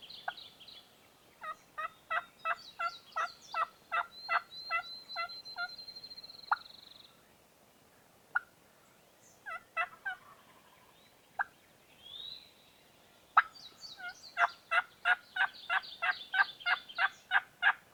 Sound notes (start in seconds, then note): 2.3 excited turkey yelps